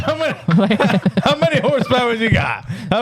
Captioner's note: laughing